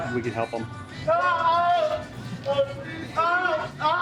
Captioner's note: yelling